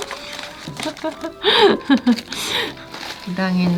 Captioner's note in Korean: 웃음